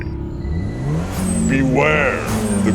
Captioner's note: engine revving